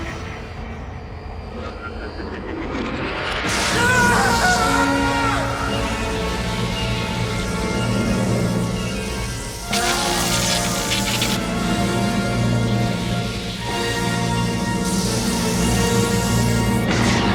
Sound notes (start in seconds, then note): 3.4 laser zapping; 3.5 Sergeant screams; 11.8 dramatic orchestral music